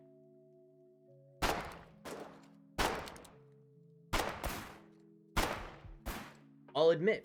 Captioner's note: gun battle ensues